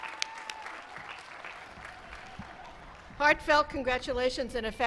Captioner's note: applause